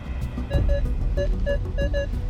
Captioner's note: beeping